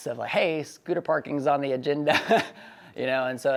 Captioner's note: laughs